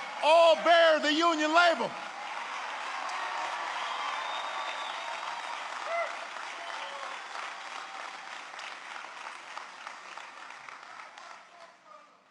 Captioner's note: applause